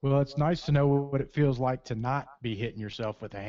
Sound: voiceover

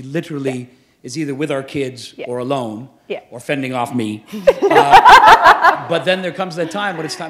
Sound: chuckle

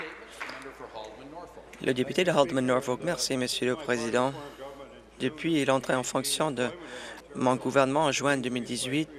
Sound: applause

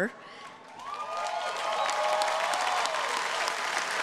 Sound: audience applauding

